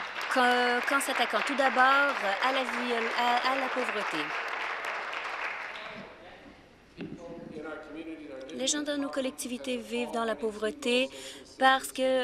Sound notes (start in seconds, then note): 0.0 applause